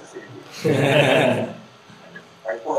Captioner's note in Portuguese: Risos